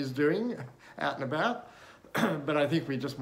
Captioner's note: clears throat